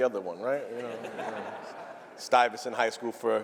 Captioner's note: laughter